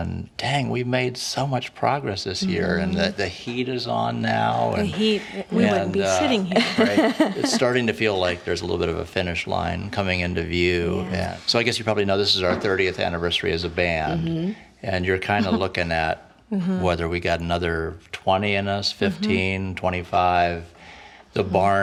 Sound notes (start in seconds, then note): 6.5 chuckling